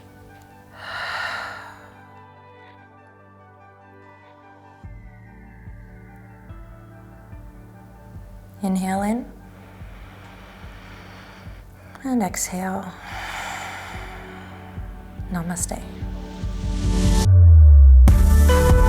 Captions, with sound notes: (deep breaths) Inhale in. (deep breaths) And exhale. (deep breaths) Namaste. (upbeat music)